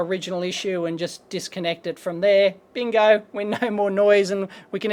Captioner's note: laughing